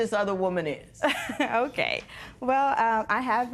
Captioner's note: laughs